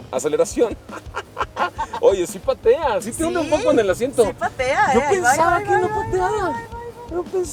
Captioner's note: laughter